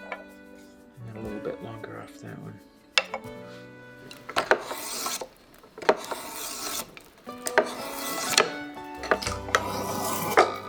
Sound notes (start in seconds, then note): 3.9 tool scrapes, gentle music